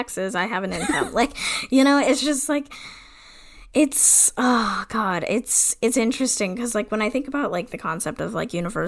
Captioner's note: laughs